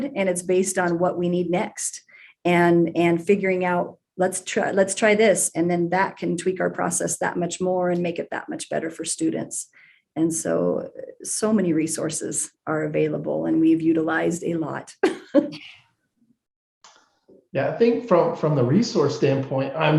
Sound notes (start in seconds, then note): 15.9 laughs